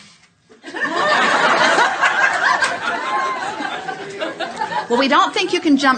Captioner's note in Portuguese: A platéia ri